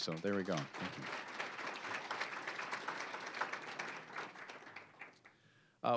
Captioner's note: applause